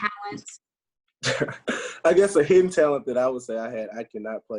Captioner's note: laughs